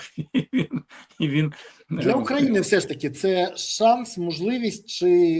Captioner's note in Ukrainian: сміх